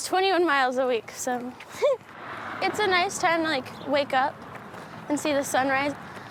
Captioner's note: laughs